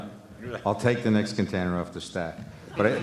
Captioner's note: laughter